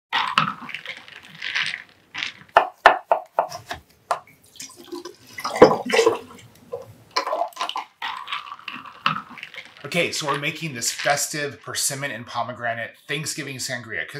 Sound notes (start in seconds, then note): 0.1 ice cubes rattle; 2.4 knife chops; 3.3 cutter chops; 4.4 ingredients pouring; 7.2 ice cubes rattle